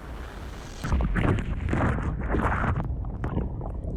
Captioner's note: water burbling